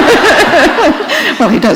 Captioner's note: laughter